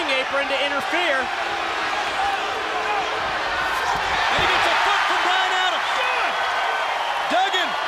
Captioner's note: crowd cheering